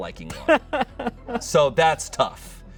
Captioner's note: laughs